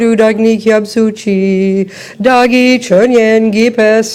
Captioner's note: French